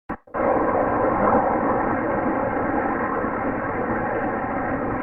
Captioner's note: Bigfoot audio recordings play